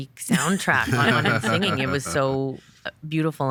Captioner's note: hosts laughing